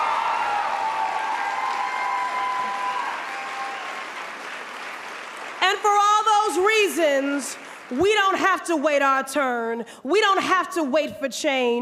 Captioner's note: applause